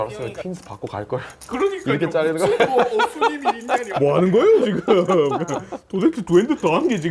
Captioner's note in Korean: 웃음